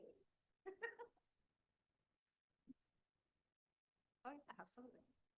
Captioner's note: laughing